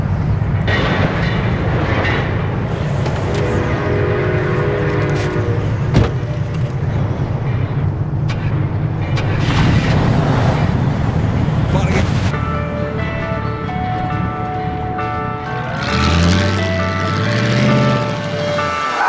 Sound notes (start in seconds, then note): 0.8 train rumbling; 3.1 train horn blowing; 9.1 engine revving; 11.4 radio crackling; 15.1 engine revving